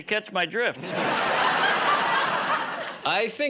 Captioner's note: laughter